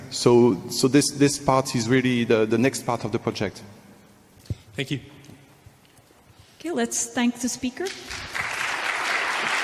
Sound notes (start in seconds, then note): 7.8 applause